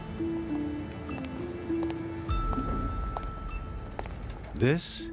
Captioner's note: heels tapping against a pavement